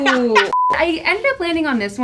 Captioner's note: laughing